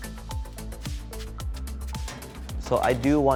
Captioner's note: upbeat music; food rustling